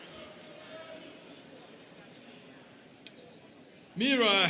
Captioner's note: students cheering; people chattering